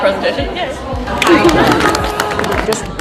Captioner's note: applause